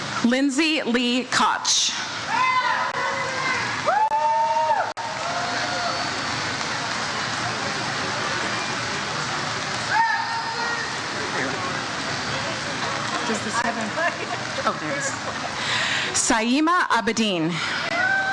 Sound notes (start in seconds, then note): 2.2 audience cheers; 17.8 audience cheers